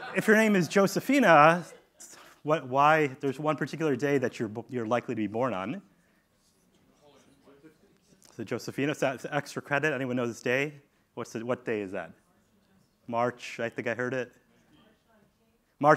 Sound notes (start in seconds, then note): 5.7 audience talking